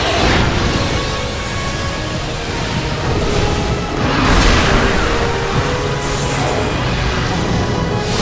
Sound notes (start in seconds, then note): 3.3 roars